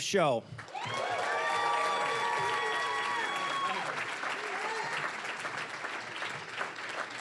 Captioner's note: cheering, applause; applause